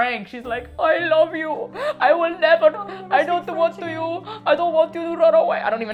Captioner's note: heavy Cuban accent